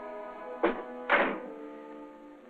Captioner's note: door closes